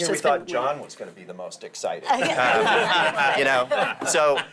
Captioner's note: laughter